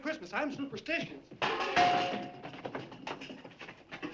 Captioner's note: knocks over ashtray